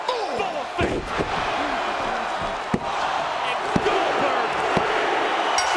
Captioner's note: applause